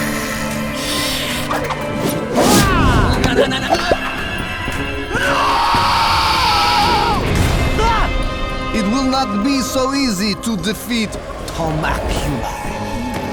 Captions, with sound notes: [hissing] No, no, no! [roars] It will not be so easy to defeat Thoma-cula.